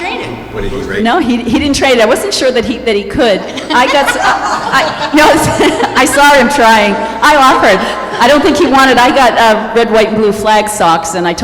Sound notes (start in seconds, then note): 3.4 laughter